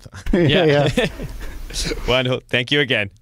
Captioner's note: laughs